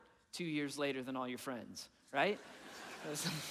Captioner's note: audience laughing; laughing